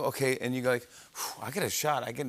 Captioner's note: exhales forcefully